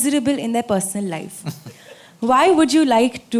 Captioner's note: Sadhguru Laughs